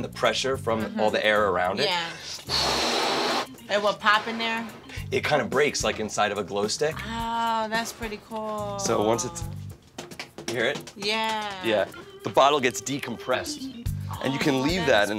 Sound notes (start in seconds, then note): 9.8 balloon clattering